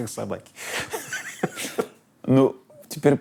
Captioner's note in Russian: смеются